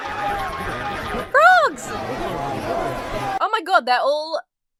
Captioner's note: crowd angrily shouting; springs boinging